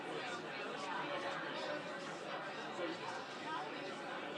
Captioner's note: audience speaking